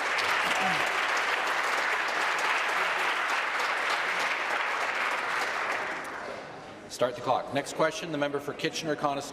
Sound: applause

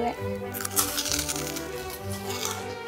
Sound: crunching; violin music

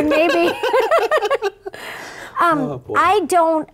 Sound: laughing

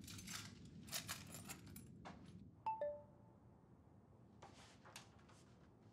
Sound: message beeping; keys jingling

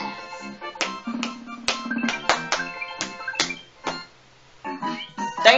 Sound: claps Rhythmically

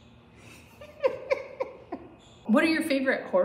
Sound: hinged laughter

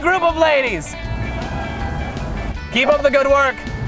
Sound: women cheering

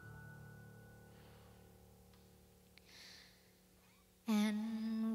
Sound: music stops

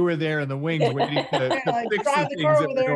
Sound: laughs

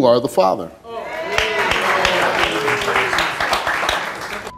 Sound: audience applauding

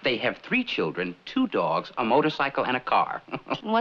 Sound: chuckles

